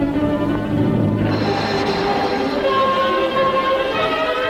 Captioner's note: water splashing